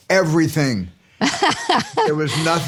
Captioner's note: laughter